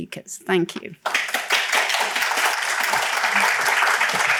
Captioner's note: applause